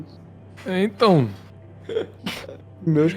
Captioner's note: laugh